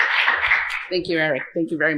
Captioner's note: applause